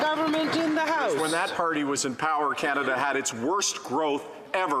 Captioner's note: some Applause